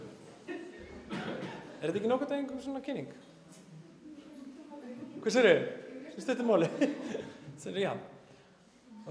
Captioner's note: conversation in icelandic